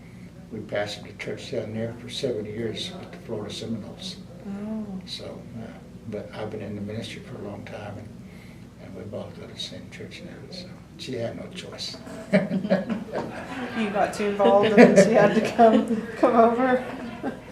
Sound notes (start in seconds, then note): 12.0 laughs